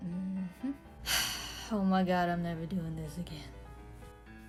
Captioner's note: sigh